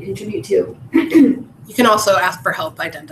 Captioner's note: cough